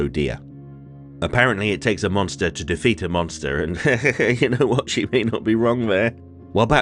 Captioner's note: laughter